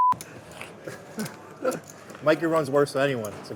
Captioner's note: laughing